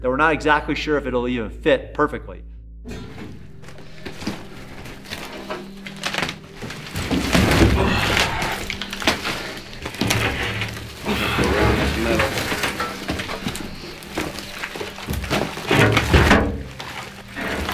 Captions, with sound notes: That we're not exactly sure if it will even fit perfectly. (rocks moving)